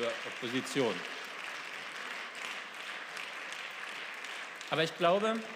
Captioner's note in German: Beifall